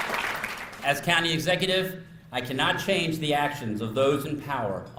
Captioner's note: applause